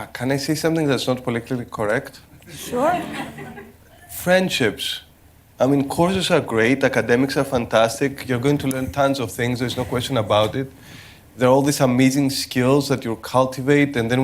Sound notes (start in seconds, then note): 2.4 laughter